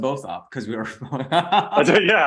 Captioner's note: both laughing